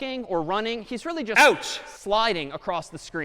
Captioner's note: ouch sound